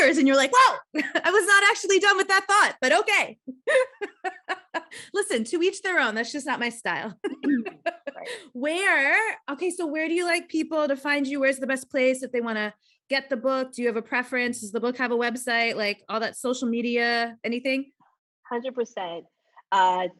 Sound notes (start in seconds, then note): 3.6 laughing; 7.2 laughs